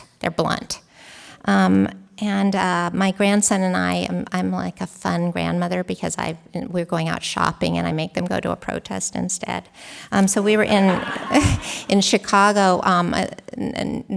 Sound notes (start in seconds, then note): 10.2 laughter